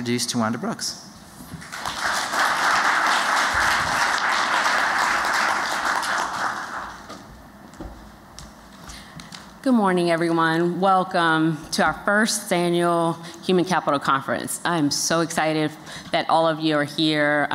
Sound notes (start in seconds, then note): 1.6 applause